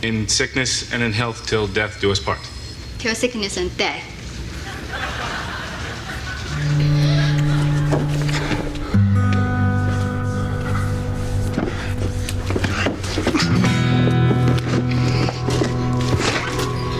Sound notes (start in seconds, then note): 4.5 audience laughing